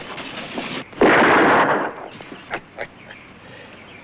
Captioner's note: gun firing